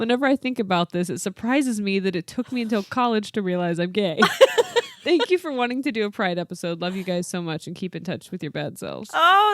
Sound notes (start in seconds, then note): 4.2 laughs